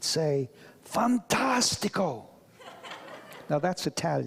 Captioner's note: audience laughs; speaks foreign language